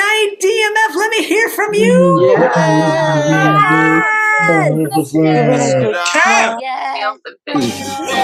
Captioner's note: cheering